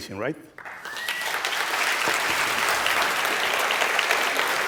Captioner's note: applause